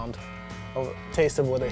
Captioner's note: humming